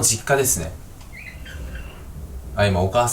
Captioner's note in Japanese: 戸の擦れる音